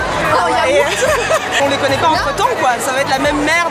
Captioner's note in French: rires